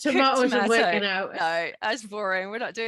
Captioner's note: laughs